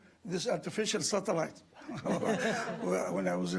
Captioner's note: audience laughing